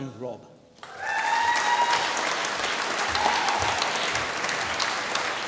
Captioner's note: applause